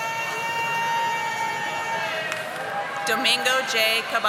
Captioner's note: audience applauding